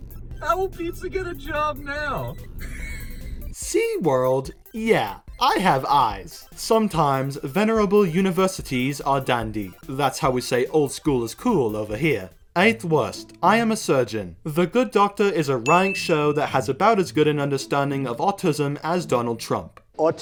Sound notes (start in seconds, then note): 2.6 wheeze